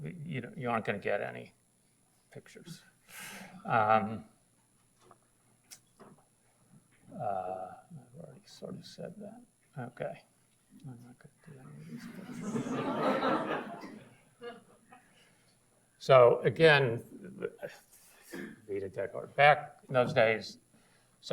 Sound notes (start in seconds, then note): 11.9 audience laughs